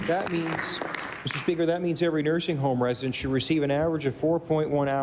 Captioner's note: applause